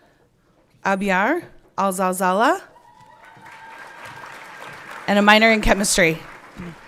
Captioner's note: everyone clapping